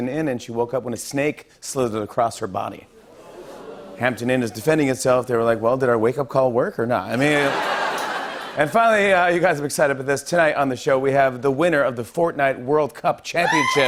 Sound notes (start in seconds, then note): 2.9 audience "ooh"s; 7.2 laughter